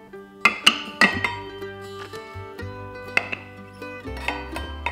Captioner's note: glass clinking